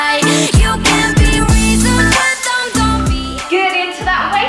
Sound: timer beeping

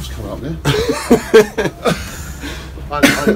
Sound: laughs

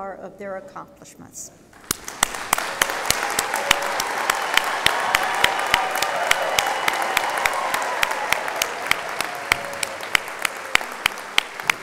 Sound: applause

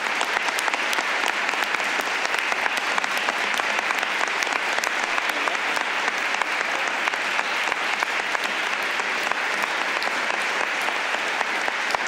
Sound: applause

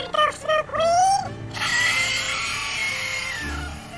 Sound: inhale

